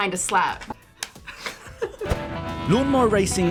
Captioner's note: laughs